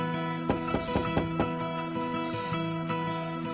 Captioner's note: knock knock